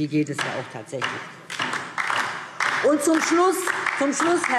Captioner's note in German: Beifall DIE LINKE